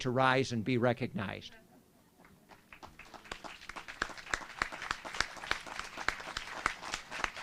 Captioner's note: applause